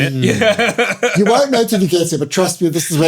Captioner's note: laughing